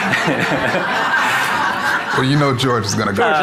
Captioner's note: audience laughing